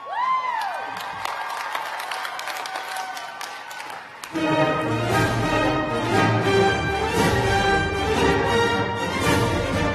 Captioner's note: cheers and applause